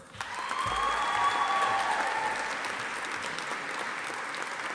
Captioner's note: audience applauding